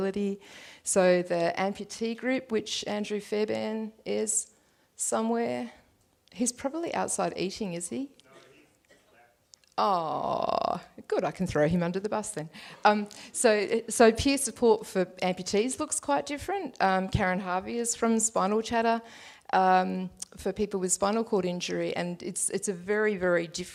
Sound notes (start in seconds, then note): 8.5 audience member responds